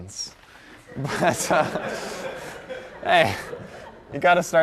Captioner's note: laughter